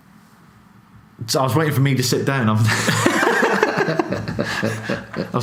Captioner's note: laughs